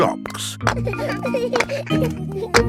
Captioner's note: children laughing